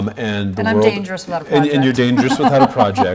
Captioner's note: laughs